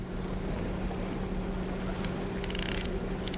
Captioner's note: boat engine whirs